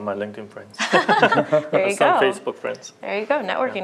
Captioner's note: laughter